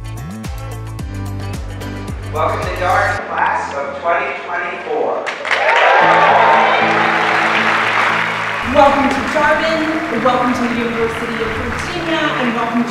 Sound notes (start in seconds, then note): 5.2 students clapping